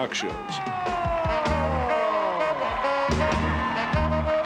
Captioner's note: cheering